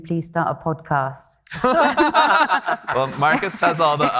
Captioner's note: everybody laughing; attendees clapping